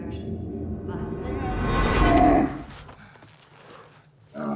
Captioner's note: gasps; loud camel groan; camel grunt